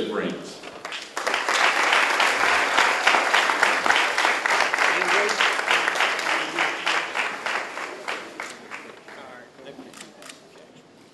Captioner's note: applause